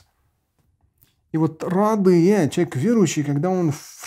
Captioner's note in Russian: говорит на арабском